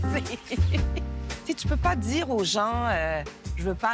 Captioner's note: laughs